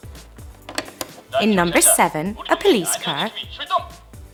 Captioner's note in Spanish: Suena una voz en Coreano